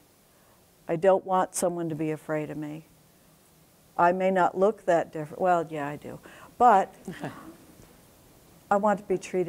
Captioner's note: laughter